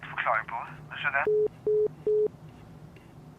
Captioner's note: the sound of a phone hanging up